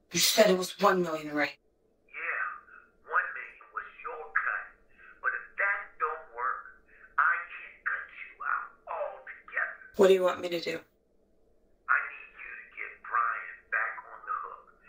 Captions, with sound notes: You said it was one million ray. [Speaker phone] Yeah, one million was your cut, [speaker phone] But if that don't work. [Speaker phone] I can cut you out all together. What do you want me to do? [Speaker phone] I need you to get Bryan back on the hook.